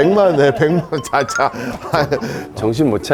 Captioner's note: shake shake